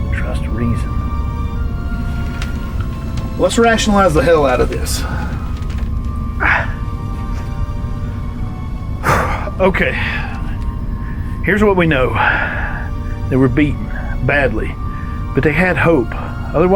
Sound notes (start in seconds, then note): 6.3 groans; 9.0 exhales